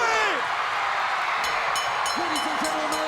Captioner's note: crowd cheering; bell ringing